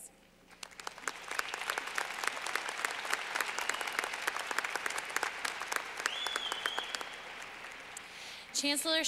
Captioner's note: clapping